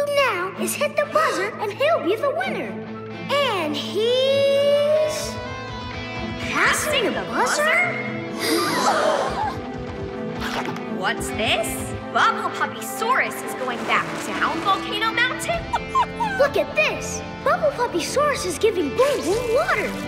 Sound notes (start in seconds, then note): 8.1 gasping